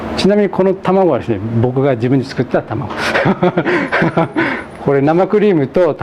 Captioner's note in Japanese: 笑い